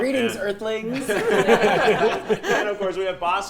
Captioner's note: group laughing